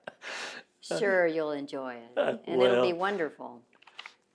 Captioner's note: laughs